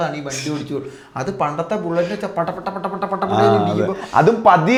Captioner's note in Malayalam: പൊട്ടിച്ചിരി